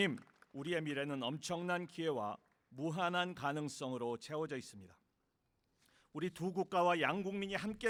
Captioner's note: applause; speaking non-english